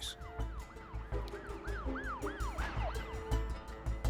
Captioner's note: sirens blaring